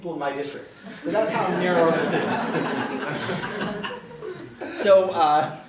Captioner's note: audience laughter